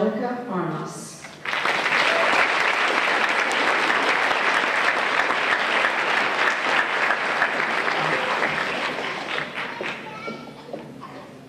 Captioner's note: applause